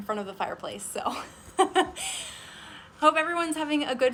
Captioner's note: laughs